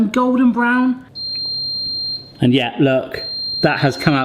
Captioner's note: oven beeps